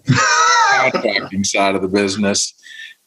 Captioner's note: laughs